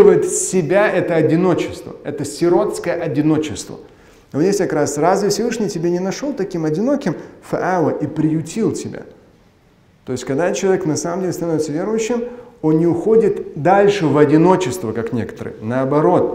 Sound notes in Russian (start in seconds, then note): 7.2 говорит на арабском